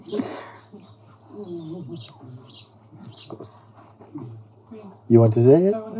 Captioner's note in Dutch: stem op de achtergrond